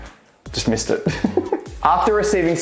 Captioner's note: laughing